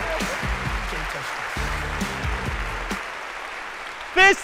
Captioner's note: applause